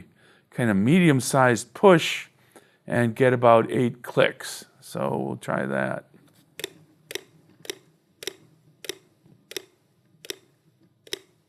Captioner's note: clicks